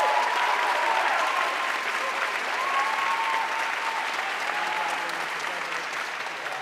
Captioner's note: audience cheering and applauding